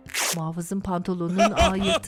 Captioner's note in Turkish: Yırtılma sesi; Gülme sesi